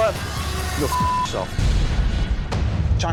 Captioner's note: beep; intense music